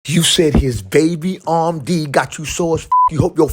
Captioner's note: beep